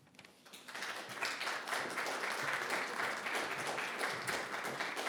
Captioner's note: audience applauding